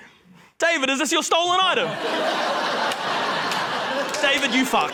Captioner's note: laughter